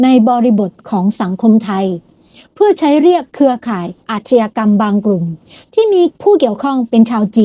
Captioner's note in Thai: เสียงสูดหายใจ